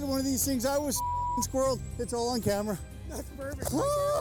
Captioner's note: beep